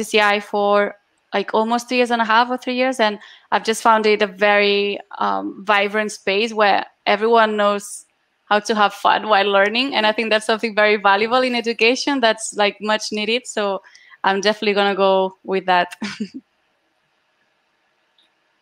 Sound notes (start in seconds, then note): 16.8 laughs